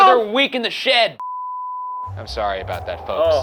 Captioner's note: screen beeping